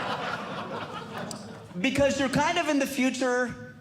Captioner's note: audience Laughing